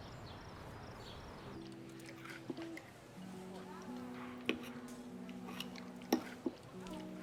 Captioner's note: soft music; diners chattering